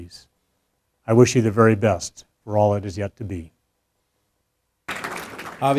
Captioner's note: applause